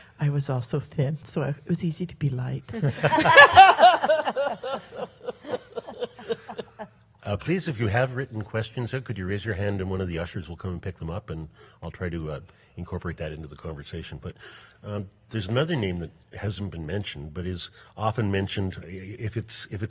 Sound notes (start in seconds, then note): 2.8 panel laughs